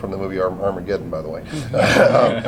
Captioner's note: laughter